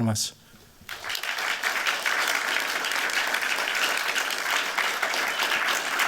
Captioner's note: applause